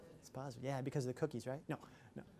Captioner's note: chatter